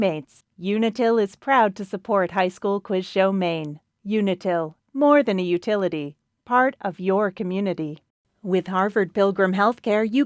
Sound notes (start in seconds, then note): none